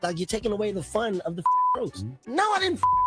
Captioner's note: beep